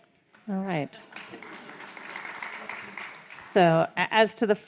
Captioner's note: crowd applauds